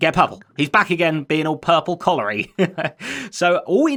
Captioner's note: chuckles